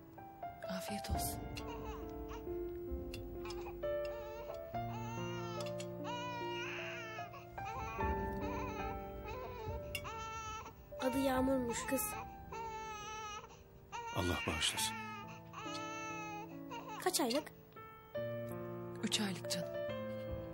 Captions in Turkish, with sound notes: Afiyet olsun. ( BEBEK AĞLAMA SESİ ) Adı Yağmur'muş, kız. Allah bağışlasın. Kaç aylık? 3 aylık canım.